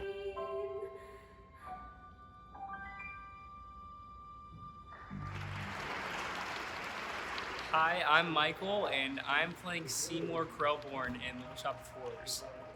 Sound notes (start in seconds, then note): 5.2 applause